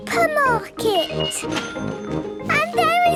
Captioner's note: cash register dinging